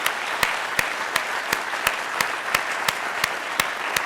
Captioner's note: audience applauding